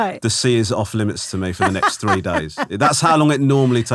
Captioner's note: laughing